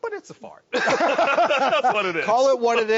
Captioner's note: laughs